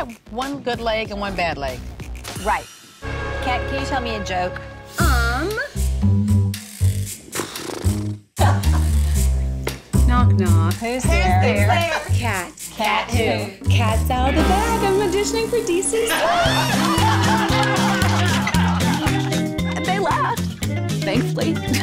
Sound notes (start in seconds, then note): 5.1 slow music; 7.2 blows raspberry; 8.4 laughs; 15.7 all laughing; 21.2 laughs